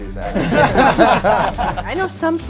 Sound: laughing

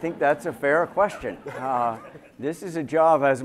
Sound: laughter

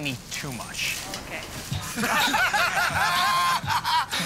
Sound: laughter

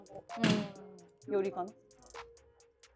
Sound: none

